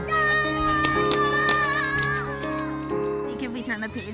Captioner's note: child yells